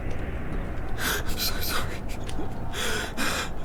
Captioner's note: sobbing whisper